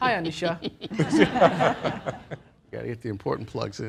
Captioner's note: laughter